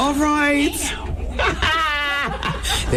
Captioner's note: laughing